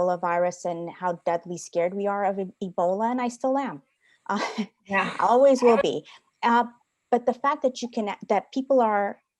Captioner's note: laughter